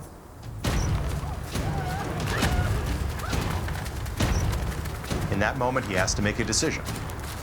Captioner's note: rapid footsteps